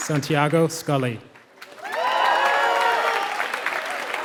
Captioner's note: applause